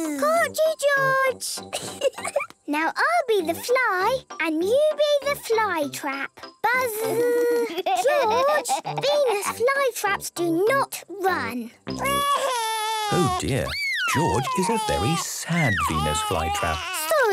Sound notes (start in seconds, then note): 6.7 George laughing